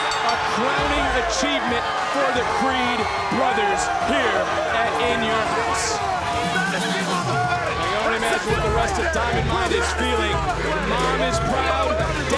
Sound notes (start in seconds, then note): 6.2 audience cheering; 6.2 upbeat music continues